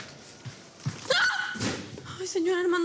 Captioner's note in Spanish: Grito